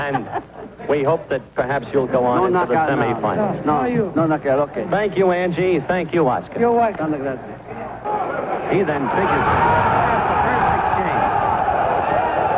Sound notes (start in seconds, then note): 7.5 speaks in Spanish; 7.7 crowd cheers